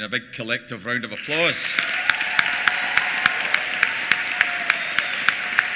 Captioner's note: applause